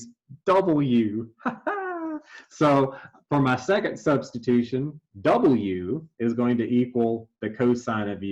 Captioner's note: laugh